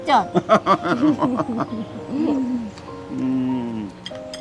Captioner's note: both laughing